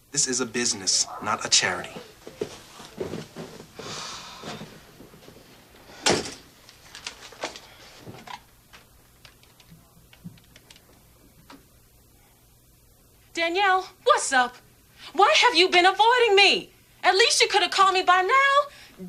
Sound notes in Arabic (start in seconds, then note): 3.9 تتنهد